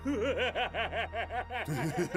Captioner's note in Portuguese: risadas